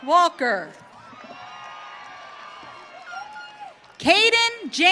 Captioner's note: audience cheering